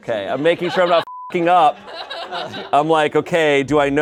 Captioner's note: beep